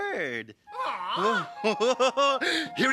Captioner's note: Terrence squawking; laughing